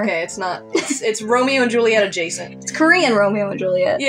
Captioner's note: snicker